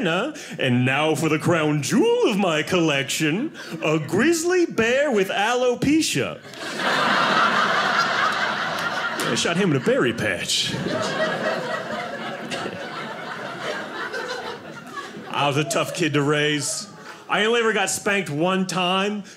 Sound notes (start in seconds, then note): 6.3 audience laughing; 10.8 audience laughing